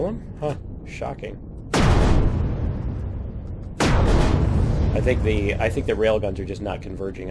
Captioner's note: explosion